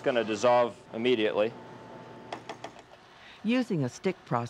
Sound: icing spreader taps

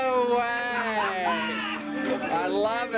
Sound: man laughs

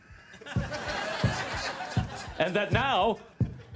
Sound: laughter

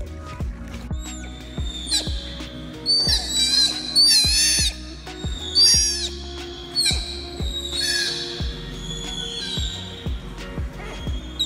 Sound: background music; sea otter vocalizations

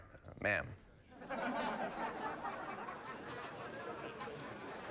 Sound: bar patrons laugh

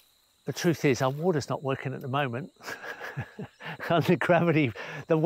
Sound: chuckles

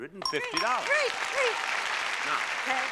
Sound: bell rings

